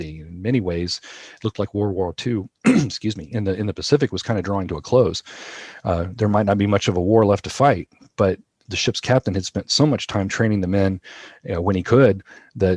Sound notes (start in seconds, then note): 2.6 coughs